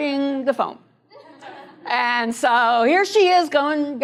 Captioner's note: laughter